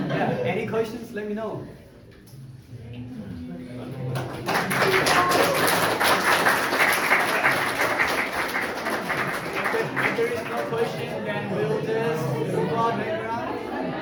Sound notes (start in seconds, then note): 2.4 crowd chattering; 4.0 crowd applauding